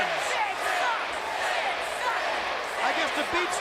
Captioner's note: crowd cheering